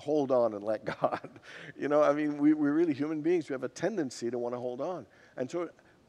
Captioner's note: laughs